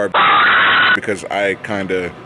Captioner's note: screaming